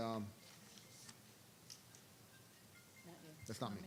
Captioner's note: cellphone ringing